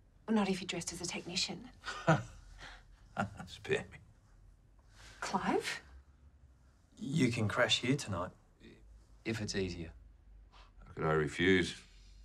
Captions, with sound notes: Not if you're dressed as a technician. (laughs) Spare me. - Clive? - You can crash here tonight. - If it's easier. - How could I refuse?